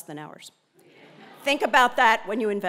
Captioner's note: laugh